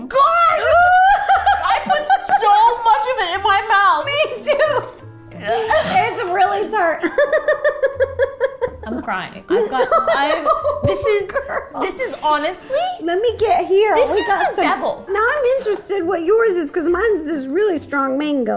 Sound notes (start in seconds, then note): 6.8 giggles; 11.1 laughing